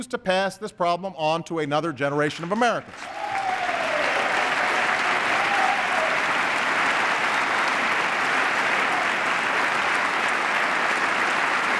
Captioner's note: applause